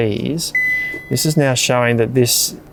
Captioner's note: fridge beeps